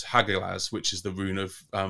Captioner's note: speaking in foreign language